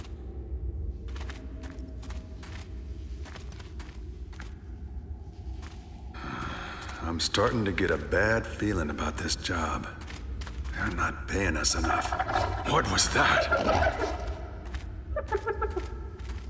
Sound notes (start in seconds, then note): 6.1 sigh; 13.4 hyena-like laughter